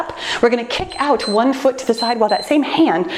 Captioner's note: timer beeps